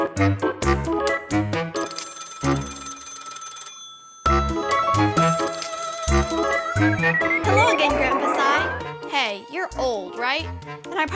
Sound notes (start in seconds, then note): 1.8 phone ringing